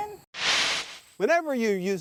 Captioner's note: whooshes